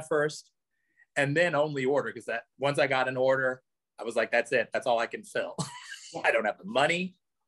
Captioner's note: laughs